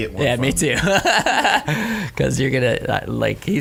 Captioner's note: laughing